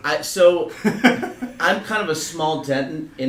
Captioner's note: laugh